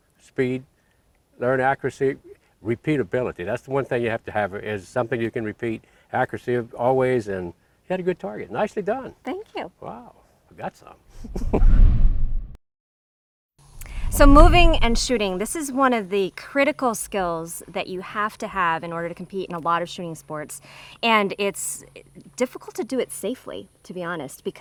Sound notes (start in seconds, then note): 11.1 both laughing; 11.3 air whooshing